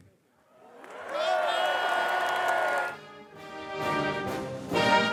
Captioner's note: audience applause; upbeat music